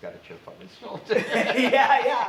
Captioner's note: laughs